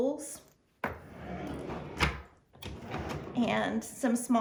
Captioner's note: drawer closes